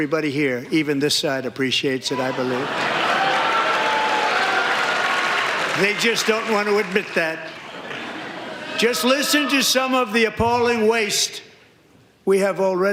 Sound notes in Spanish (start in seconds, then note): 2.8 aplausos